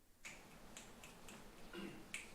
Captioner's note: snapping fingers